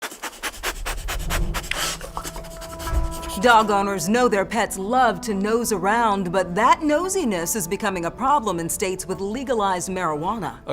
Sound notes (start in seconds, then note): 0.0 dog sniffing